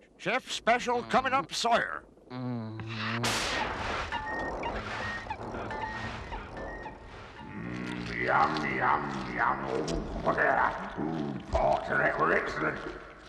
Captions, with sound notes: Chef's Special coming up, Sire! *Beeping and squeaking* Mmm, yum yum yum! Oh! Ooh, Excellent!